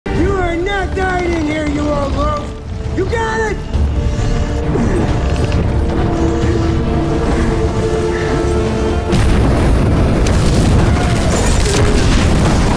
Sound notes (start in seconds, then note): 3.8 oxygen hissing; 9.0 explosion